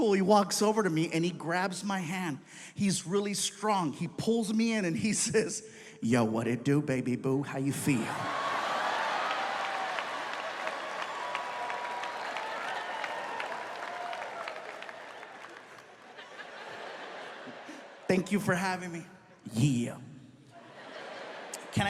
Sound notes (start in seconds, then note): 8.3 audience cheering; 15.2 audience laughs; 20.6 audience laughs